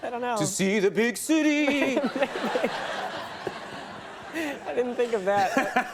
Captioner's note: Michael and audience laughs